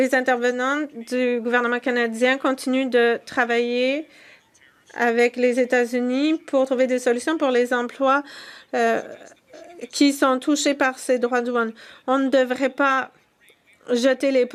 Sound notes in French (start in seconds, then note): 5.3 voix de l'interprète